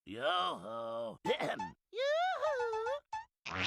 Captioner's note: clears throat